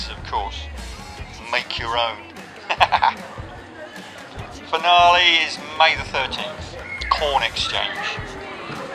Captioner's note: laughs